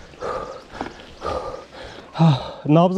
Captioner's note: heavy breathing